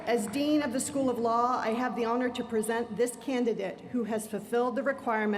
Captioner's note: applause